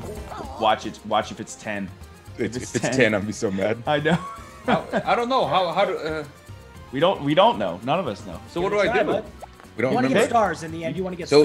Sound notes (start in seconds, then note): 4.1 laugh